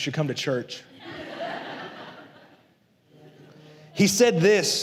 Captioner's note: la congregación se ríe